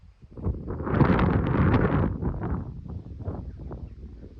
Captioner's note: wind noise and distant Jackdaw chatter